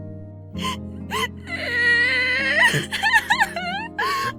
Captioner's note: tissues sobbing